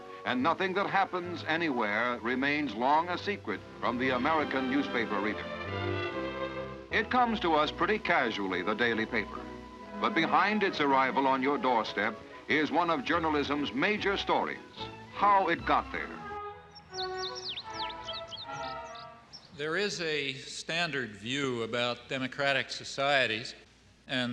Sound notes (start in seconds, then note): 17.5 birds twittering; 17.5 gentle music